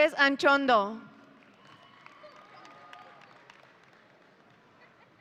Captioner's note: audience cheering